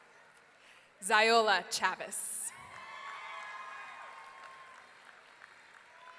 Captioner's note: audience cheering